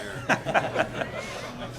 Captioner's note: laughter